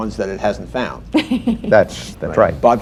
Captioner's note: laughter